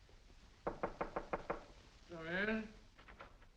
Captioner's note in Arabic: يقرع الباب